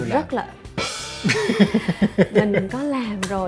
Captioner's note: laugh